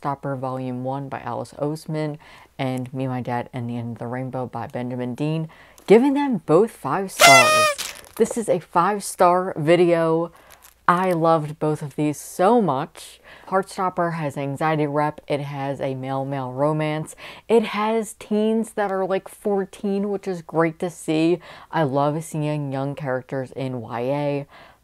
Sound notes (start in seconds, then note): 7.2 party horn